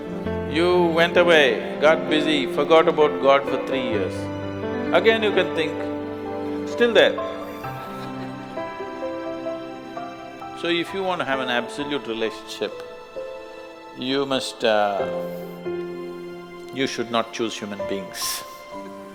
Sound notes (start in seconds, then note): 7.7 laughter